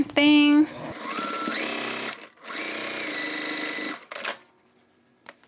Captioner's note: sewing machine whirring